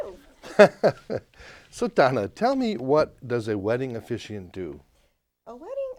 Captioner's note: laughs